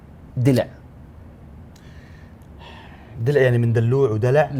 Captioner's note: sighs